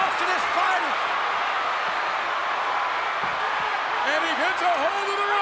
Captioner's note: crowd cheering